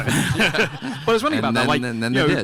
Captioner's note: everyone laughing